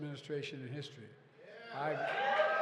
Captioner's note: applause